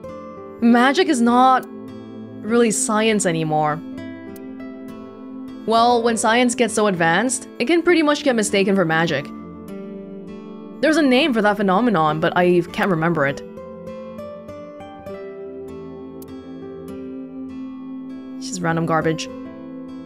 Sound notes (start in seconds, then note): none